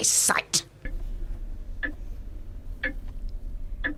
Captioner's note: clock ticking